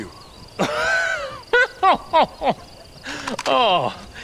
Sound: Bill laughing

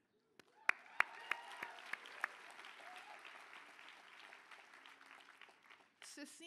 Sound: applause

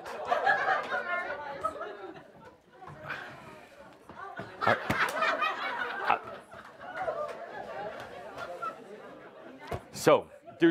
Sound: lots of laughter as the audience tosses the balls around

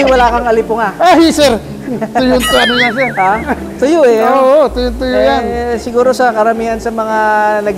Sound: laugh

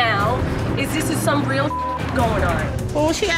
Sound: beep

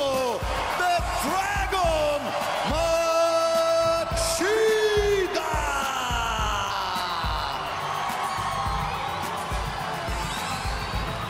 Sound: speaking foreign language

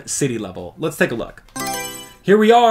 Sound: Mario Selection Sound

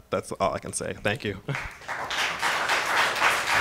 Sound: applause

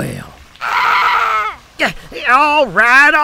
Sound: crow screeches

